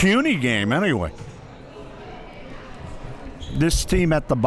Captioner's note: crowd murmuring